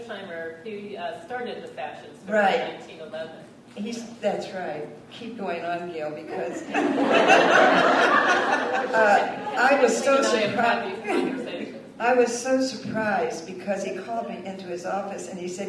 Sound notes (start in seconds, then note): 6.5 laughter